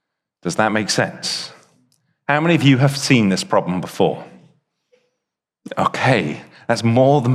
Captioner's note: none